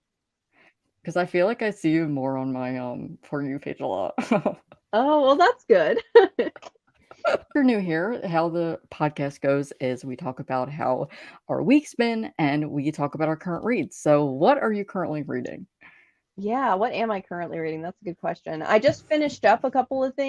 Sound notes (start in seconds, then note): 5.7 laughing; 5.8 both laughing